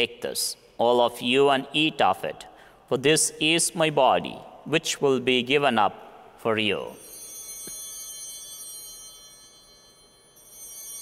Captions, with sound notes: "Take this, all of you, and eat of it. "For this is my body, which will be given up for you." (Bell ringing)